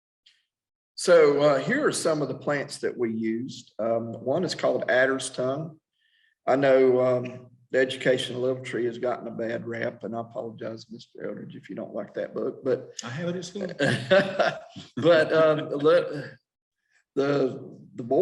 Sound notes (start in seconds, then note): 14.7 laughing